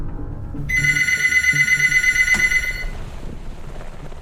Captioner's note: phone ringing